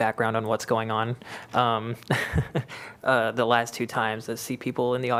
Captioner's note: laughter